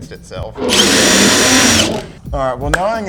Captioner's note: impact wrench roaring; menacing string music